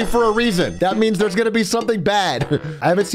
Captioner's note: laughs